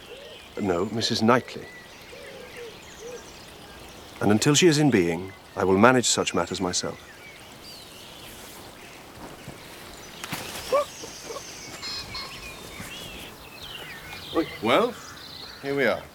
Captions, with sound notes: No. Mrs Knightley. And until she is in being, I will manage such matters myself. (Giggles) Well. Here we are.